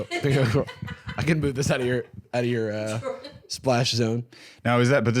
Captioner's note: laughing